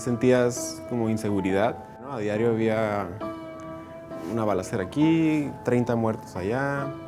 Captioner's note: speaking in Spanish/English Subtittle